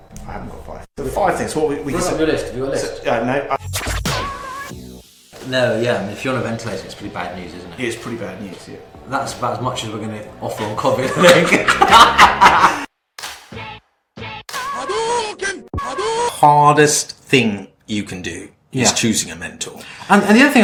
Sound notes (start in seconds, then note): 11.0 both laughs